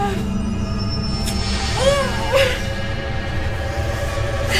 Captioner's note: grunting